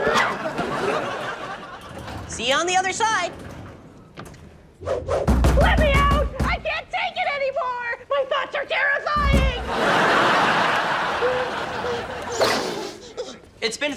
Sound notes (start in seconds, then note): 0.0 audience laughs; 5.2 knocking; 9.4 audience laughs; 11.7 heavy breathing